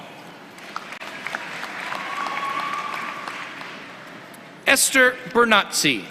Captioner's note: applause